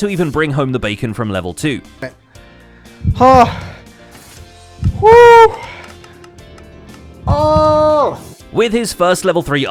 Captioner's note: catching breath